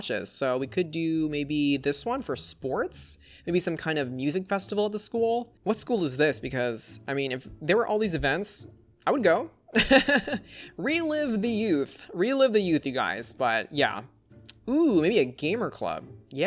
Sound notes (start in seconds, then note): 9.8 laughs